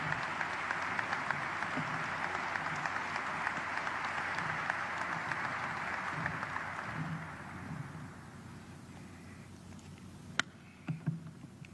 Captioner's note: applause